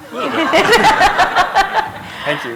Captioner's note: laughter